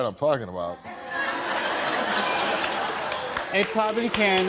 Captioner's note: audience laughing